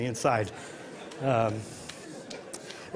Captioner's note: laughter